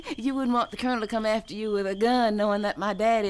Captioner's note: laughing